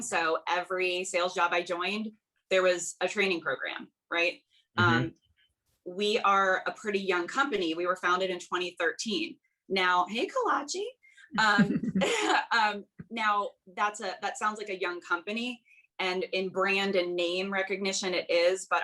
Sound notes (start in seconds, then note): 11.4 they laugh